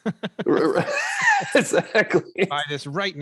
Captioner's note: both laughing